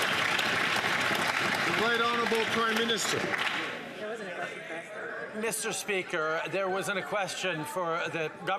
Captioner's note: some Applause